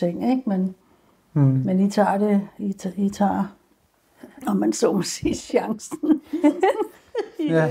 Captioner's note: laughing